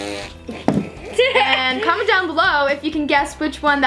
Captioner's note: laughs